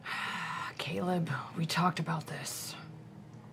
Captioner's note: sigh